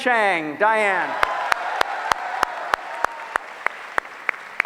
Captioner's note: applause